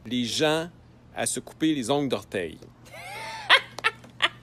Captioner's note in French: rire